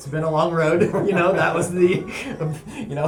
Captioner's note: laughter